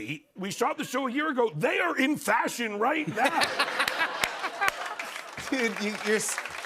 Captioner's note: laughter